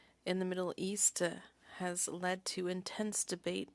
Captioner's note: speaking French